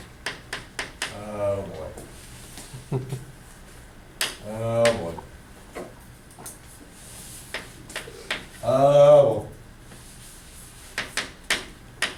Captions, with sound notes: Oh boy. (chuckles) Oh boy. Oh boy!